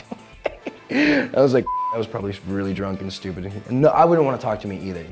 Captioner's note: laughing; beep